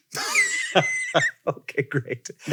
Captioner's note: laughs